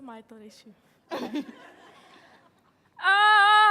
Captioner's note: audience laughing